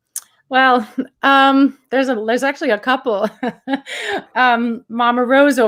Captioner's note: laughs